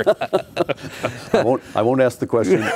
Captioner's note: laughing